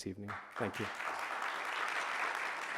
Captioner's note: audience applauding